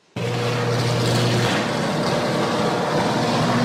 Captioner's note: loud buzzing